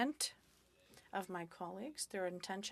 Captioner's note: speaking French